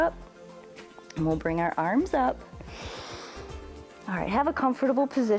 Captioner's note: inhales